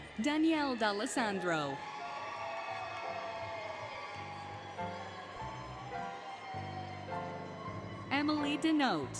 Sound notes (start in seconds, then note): 1.8 applause, Cheering, Music